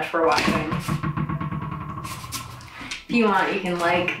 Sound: dog ball bouncing

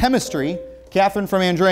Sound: beeping

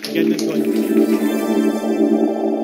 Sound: techno music playing; applause

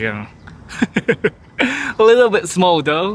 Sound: laughs

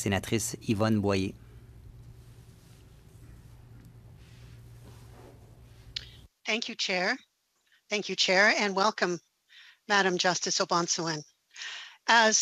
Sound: speaking French

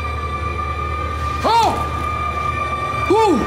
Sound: Adam shouts

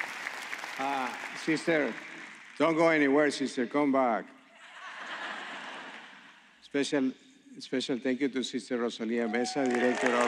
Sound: applause

